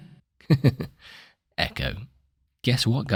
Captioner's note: giggle